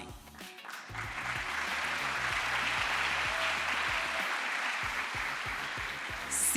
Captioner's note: crowd applause